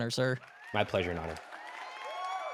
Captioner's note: audience applause